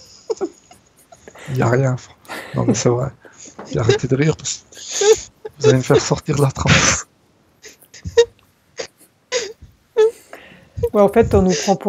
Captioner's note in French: rires